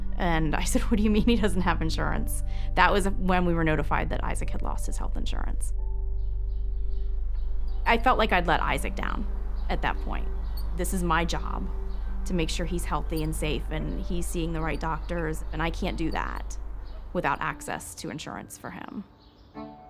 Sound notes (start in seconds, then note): 5.7 sad piano music; 6.4 birds chirping